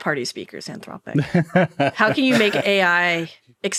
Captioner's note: laughing